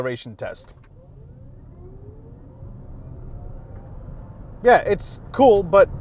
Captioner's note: car quietly whirring